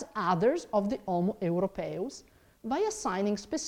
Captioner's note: speaks in foreign language